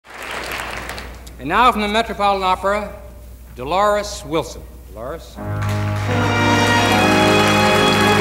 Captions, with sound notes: (audience applauding) - Now from the Metropolitan Opera, Dolores Wilson. Delores? (gentle music)